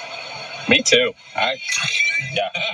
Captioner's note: laugh